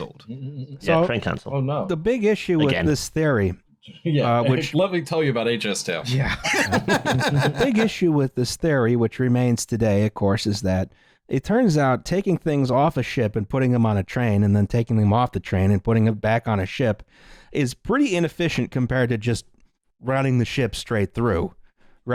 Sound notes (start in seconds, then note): 0.5 chuckles; 6.1 laughter; 6.3 laughs